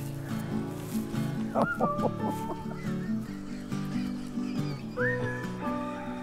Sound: laughing

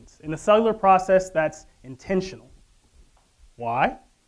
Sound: none

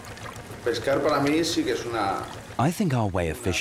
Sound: he speaks Spanish

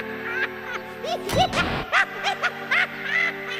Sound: maniacal laughter

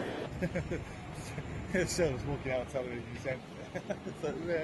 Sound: laughs

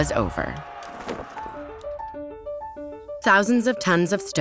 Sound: crowd cheering

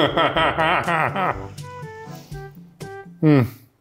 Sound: laughing

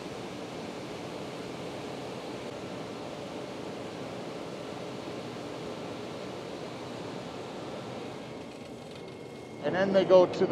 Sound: conveyor whirring

